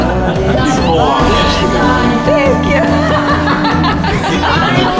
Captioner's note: laughter